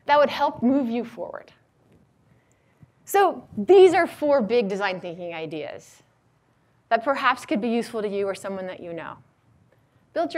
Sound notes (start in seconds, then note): none